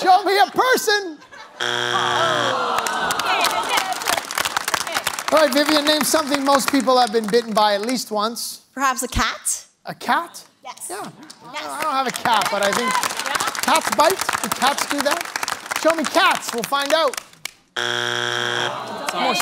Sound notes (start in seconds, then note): 1.5 buzzer sounds; 2.5 applause; 17.7 buzzer sounds